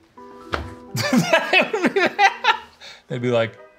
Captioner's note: laughing